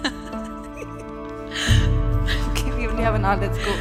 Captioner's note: joyful laughter; pensive music